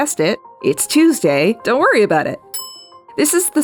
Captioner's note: bell Dings